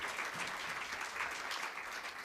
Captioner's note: applause